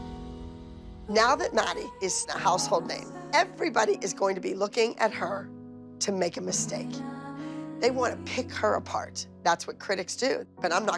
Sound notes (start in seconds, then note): none